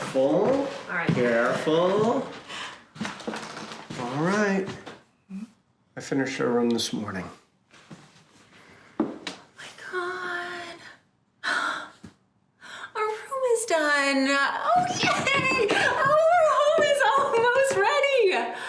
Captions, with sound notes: Careful. - All right. - Careful. All right. I finished our room this morning. - My God. (gasping) Our room is done. Oh, yay. (stomping) Our room is almost ready.